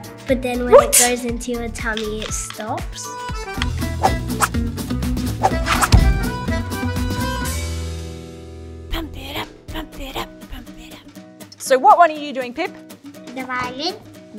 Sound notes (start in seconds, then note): 3.4 lively upbeat music; 9.1 whispering